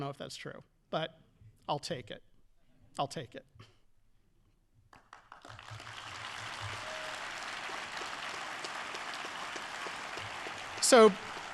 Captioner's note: audience applauding